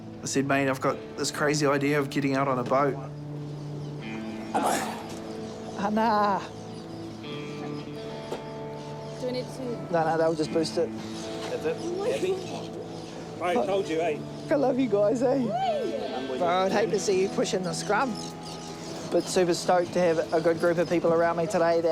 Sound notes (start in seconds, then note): 4.4 grunts